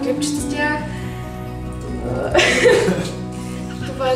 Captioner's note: shows her phone to the others, laughter